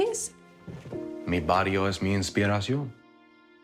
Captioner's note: speaking spanish